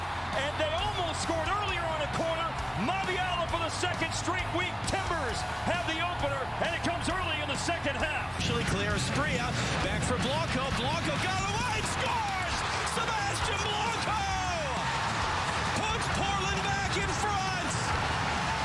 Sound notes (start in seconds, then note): 14.1 crowd cheers